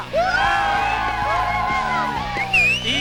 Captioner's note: cheers